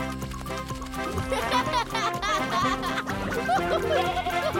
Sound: laughing

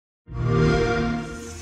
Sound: xbox whoosh

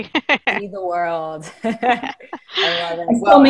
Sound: laughing

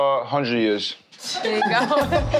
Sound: laughing

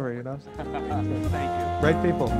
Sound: laughs

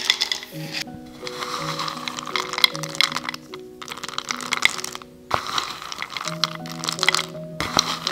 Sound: peanuts fall into wood bowl; peanuts rustle

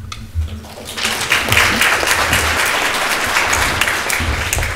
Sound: audience applauds

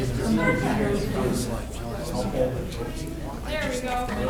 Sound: audience chattering

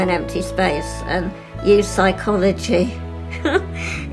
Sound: laughs

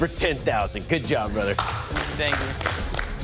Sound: applause

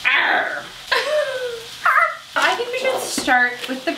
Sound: laughs

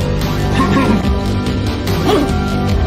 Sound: cough cough

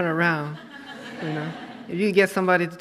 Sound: audience laughs

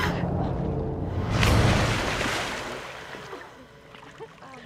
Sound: water splashing

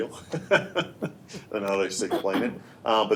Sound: laughing

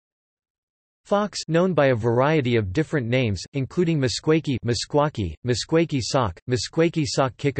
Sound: Meskwaki

